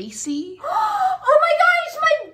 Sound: dramatic gasp

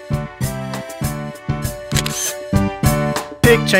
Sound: SFX: Camera Shutter

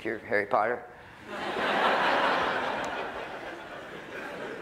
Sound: laughter

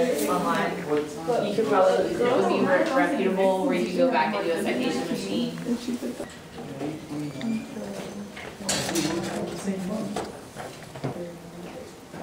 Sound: classroom noise of students working

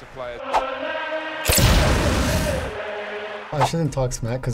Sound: explosion

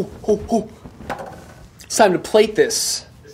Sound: whipping towel

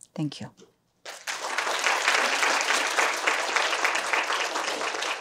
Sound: applause

